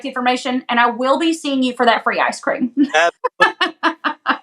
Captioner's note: laugh